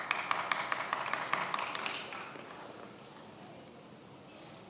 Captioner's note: many applauding